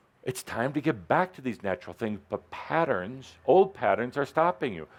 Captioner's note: none